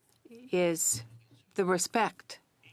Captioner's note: speaking French